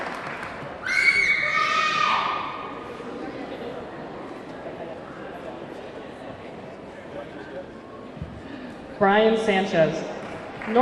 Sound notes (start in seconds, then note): 0.0 audience cheering; 0.0 audience clapping; 0.8 audience clamoring